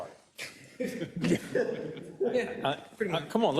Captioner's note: laugh